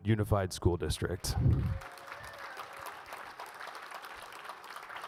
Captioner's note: audience applauds